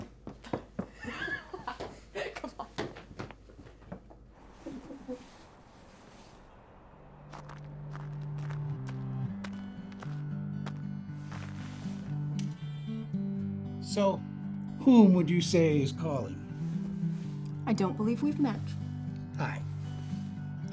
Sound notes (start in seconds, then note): 0.9 laughs; 7.1 gentle music